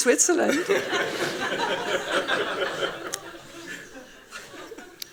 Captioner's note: laughing